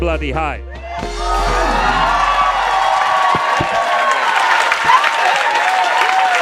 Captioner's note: crowd cheering and clamoring